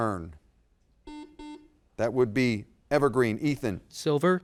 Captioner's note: buzzer dings